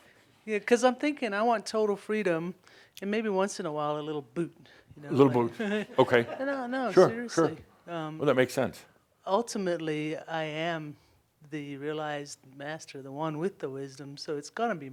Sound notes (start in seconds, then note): 5.6 she chuckles